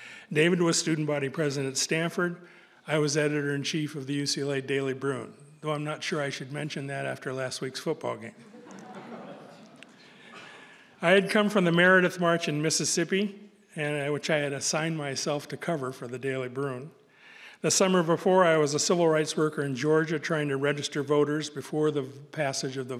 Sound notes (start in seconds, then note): 8.4 audience laughing